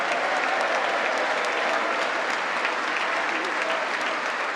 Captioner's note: congress applauding